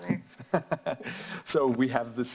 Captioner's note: laughs